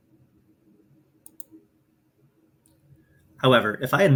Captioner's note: mouse clicks